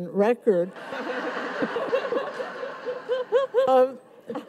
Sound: audience laughs

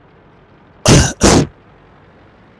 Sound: coughing

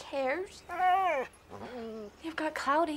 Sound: dog whines

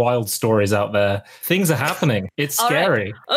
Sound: laughs

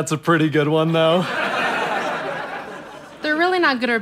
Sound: audience laughter

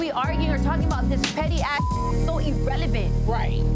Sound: beep

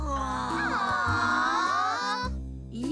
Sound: all groaning

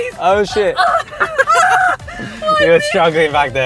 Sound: laughing

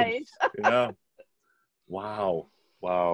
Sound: laughs

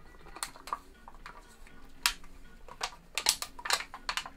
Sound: can crushing

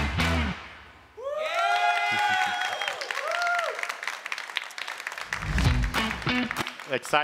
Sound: applause

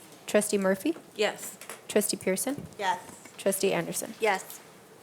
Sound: none

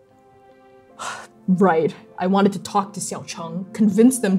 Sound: sighing

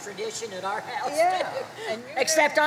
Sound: chuckles

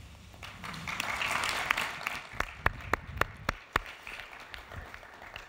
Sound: audience applauding

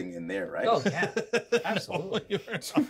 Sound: speaker laughs

